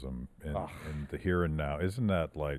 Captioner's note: makes noise of disgust